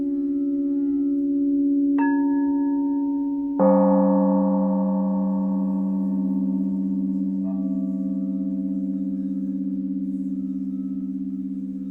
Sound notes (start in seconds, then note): 3.6 gong rings; 8.7 bell tones resume